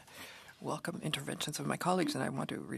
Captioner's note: speaking French